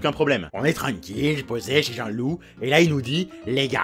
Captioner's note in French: accent du sud